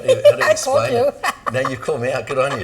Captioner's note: laughing